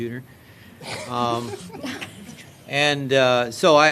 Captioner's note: laughter